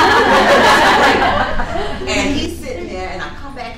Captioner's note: folks laughing